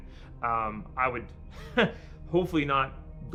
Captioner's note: laughs